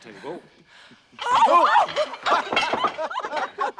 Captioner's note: screams; laughter